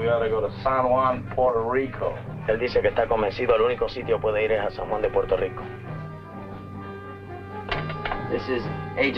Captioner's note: Colonel Cabeza speaking in Spanish